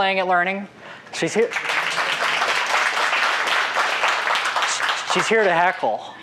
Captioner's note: applause